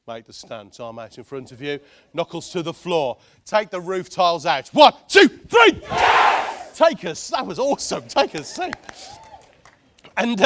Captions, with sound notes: Make the stance. Arm out in front of you, knuckles to the floor, take the roof tiles out, one, two, three. (crowd yells) That was awesome, take a seat.